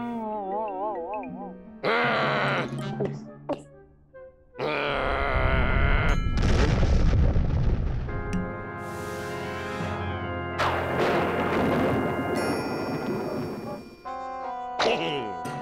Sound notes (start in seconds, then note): 1.5 growling; 2.9 gulps; 4.6 growls; 6.2 deep rumble and explosion; 10.6 thunder rumbles; 14.5 chuckles